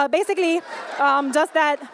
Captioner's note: laughter